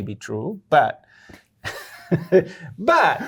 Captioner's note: laughing